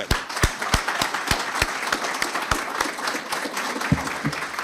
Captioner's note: audience applauding